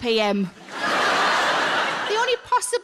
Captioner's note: audience laughing